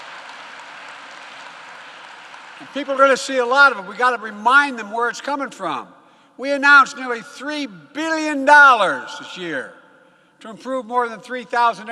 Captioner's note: applause